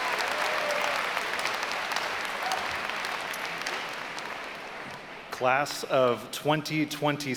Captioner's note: applause